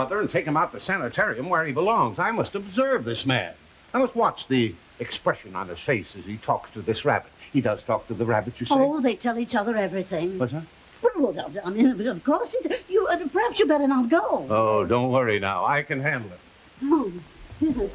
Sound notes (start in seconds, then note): 12.6 Veta stammering